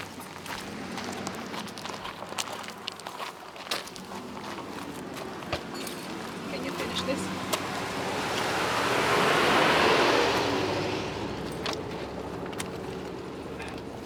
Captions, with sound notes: can you finish this. (car whooshes)